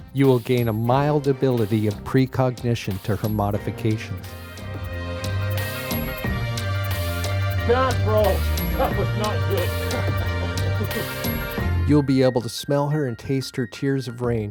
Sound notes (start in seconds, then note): 10.1 laughing